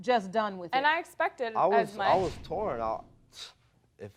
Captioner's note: stuttering